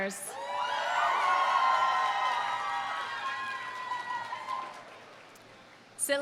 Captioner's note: audience cheering; audience applauding